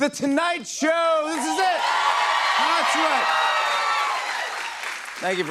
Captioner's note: cheers and applause